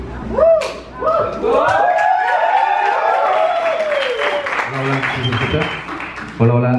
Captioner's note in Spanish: Aplausos